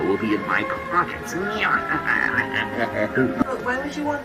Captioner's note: obligatory laugh of villainy